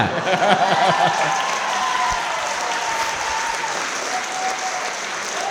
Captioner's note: crowd clapping & cheering